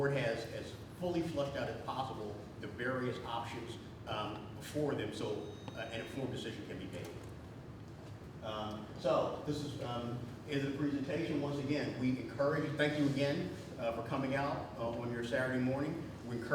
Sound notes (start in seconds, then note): none